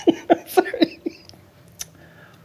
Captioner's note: laughing